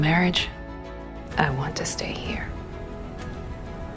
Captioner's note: voiceover